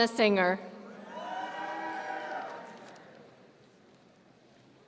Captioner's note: audience cheering